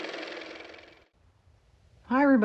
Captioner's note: car motor